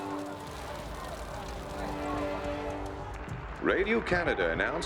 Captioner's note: flames crackling